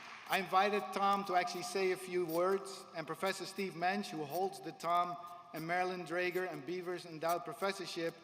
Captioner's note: applause